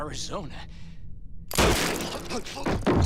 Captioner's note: bang